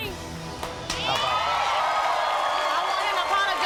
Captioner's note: audience cheers